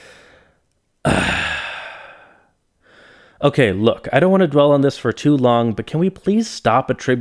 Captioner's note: sigh